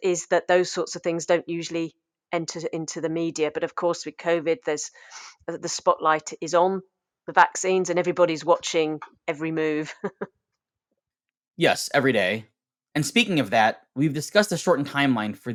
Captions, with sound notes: is that those sorts of things don't usually enter into the media, but of course with COVID the spotlight is on, the vaccines and everybody's watching every move (chuckles). - Yes every day. And speaking of that, we've discussed the shortened timeline